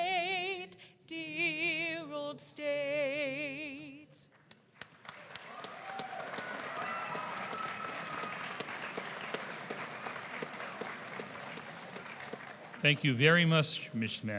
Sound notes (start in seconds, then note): 2.8 applause